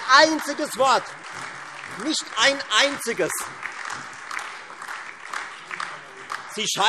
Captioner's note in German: Beifall Freie Demokraten, SPD, AfD und DIE LINKE